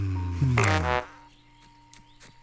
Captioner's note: jovial gas blast